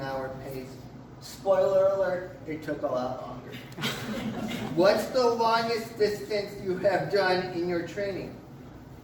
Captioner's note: laughter from crowd